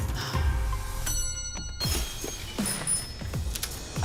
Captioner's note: bell dings